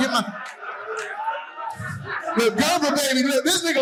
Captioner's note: audience laughing